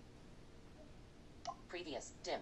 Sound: blip

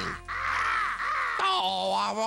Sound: cawing

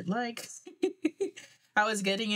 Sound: laughs

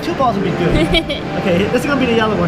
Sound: laughs

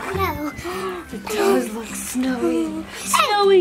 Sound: gasps

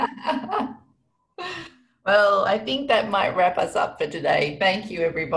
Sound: laughter

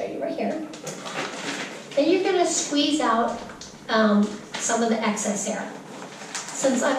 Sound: bag rustles

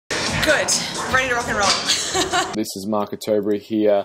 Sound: laughs

